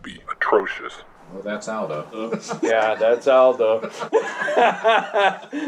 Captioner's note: laughter